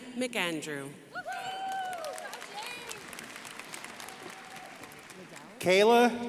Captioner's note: crowd applauding